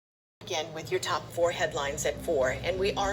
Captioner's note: on TV